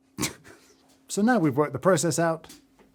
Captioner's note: laughing